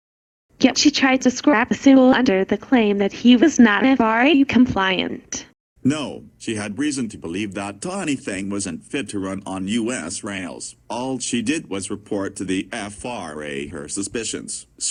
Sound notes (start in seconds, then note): none